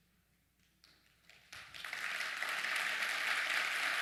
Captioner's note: applause